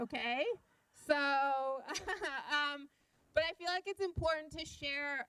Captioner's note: chuckling